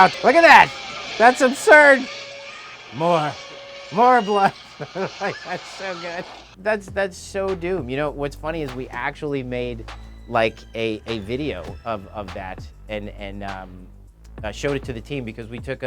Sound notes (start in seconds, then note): 4.0 laughing